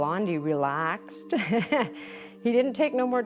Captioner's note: nervous laugh